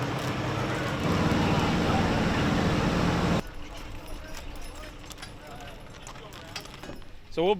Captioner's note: parade sounds; horse sounds